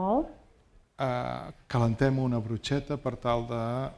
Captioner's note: speaking spanish